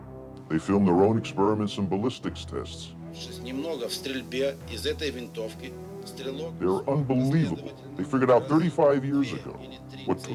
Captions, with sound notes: They filmed their own experiments and ballistics tests. (speaks in foreign language) They were unbelievable. They figured out 35 years ago,